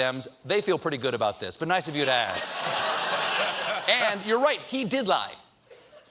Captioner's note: laughter